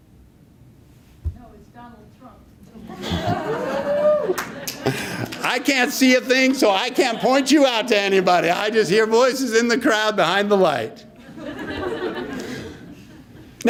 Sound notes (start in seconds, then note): 2.8 laughter; 2.8 audience reaction; 11.2 laughter